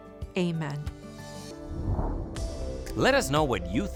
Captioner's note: air whooshing